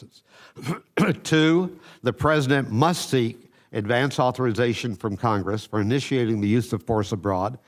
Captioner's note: coughs